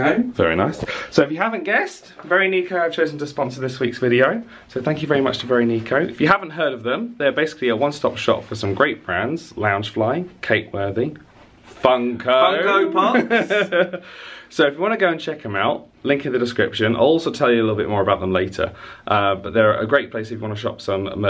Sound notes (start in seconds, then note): 12.7 laughing